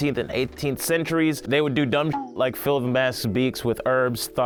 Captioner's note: beep